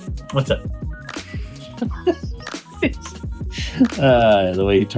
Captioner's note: laughing